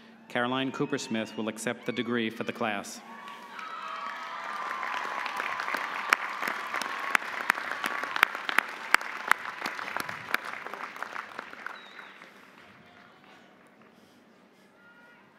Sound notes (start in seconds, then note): 2.2 audience cheering; 3.1 audience applauding